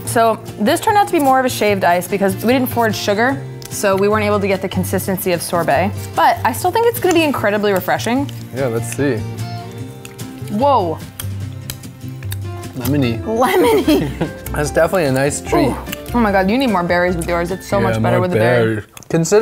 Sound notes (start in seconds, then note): 10.1 chewing; 10.9 smacking lips